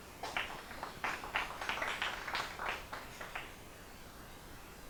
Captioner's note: applause